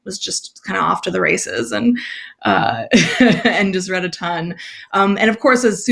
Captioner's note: laughs